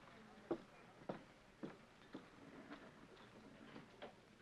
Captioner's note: Lee's footsteps depart